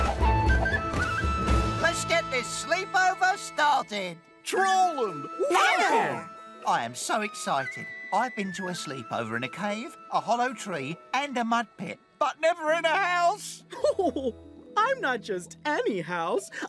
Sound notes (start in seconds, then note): 13.7 funny laughs